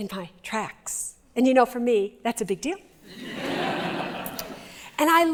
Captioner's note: laughter